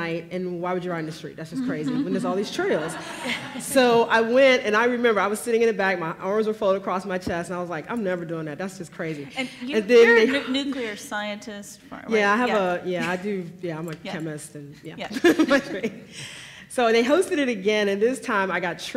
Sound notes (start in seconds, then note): 1.6 laughs; 15.4 laughs